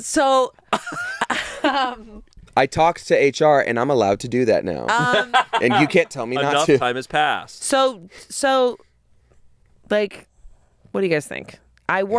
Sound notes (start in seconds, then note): 0.8 laughs; 4.9 laughing